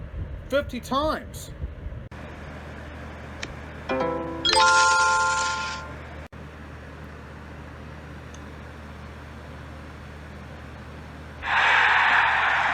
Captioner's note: Solitaire Tourist sound effects plays